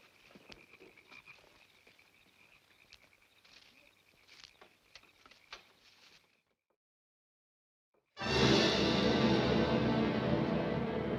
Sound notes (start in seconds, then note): 2.4 frogs croaking continues; 8.2 dramatic music